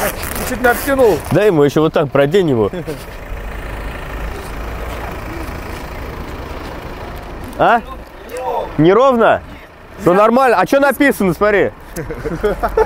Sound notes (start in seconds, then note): 3.1 car engine running; 11.8 laughing